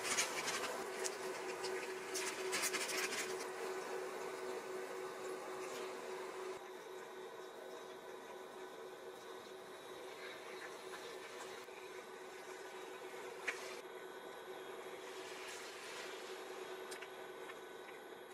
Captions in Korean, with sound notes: 다른 버섯 메인 새우 투하 소금이랑 후추 섞인 시즈닝 같아요(속닥) 이렇게 막 때려넣으면 완성될 거 같긴해요 모든 재료 넣고 쉐킷쉐킷